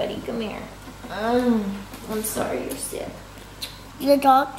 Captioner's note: soft grunt